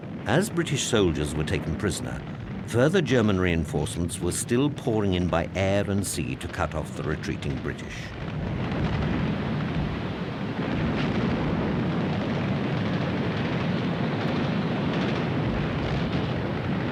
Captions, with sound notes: As British soldiers were taken prisoner, further German reinforcements were still pouring in by air and sea to cut off the retreating British. (gunfire) (explosions)